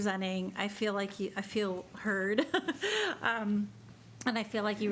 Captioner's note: chuckles